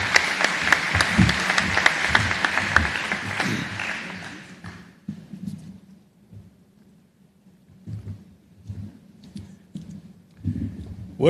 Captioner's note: applause